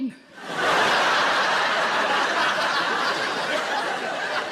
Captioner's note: audience laughing loudly